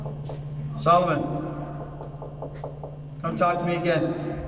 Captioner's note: knocking